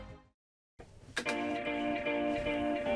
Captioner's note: keyboard clicks; peaceful music